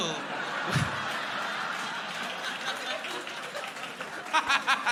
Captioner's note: crowd laughing